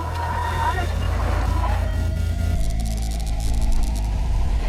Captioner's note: faint whispering